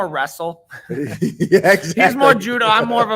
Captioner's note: chuckles